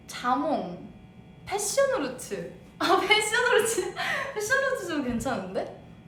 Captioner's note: laughs